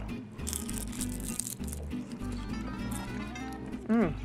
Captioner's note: crunching bites